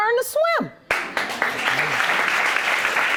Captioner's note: audience applauding